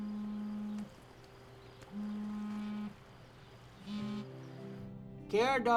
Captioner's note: phone buzzing